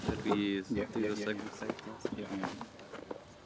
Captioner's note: indistinct chatter